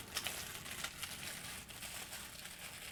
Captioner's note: plastic wrap rustling